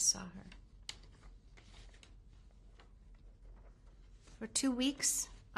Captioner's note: pauses for 3 seconds